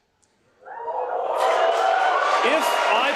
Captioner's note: cheering and applause